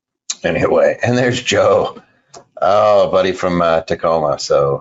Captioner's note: laughing